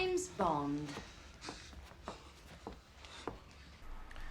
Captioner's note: footsteps